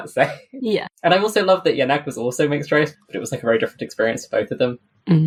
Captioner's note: laughs